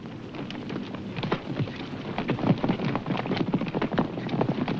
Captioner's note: hooves thundering